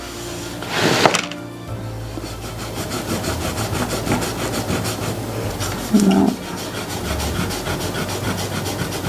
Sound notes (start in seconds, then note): 0.1 drawing paper scrapes; 2.1 eraser rubbing